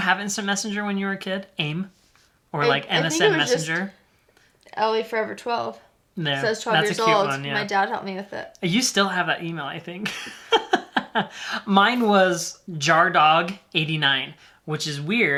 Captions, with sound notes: Did you have instant messenger when you were a kid? AIM or like MSN Messenger? - I think it was just ellieforever12 - That's a cute one. - Cause I was 12 years old, my dad helped me with it. - You still have that email I think (laughing). My was jardog89, which is weird,